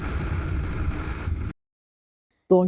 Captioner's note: sound of strong wind